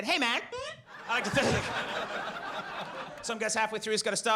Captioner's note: audience laughs